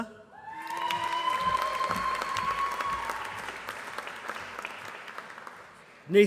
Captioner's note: applause